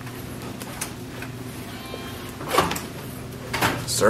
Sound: door hardware clanks; electronic lock servo motor whirrs

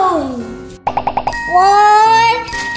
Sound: popping

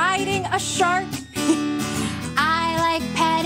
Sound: chuckles

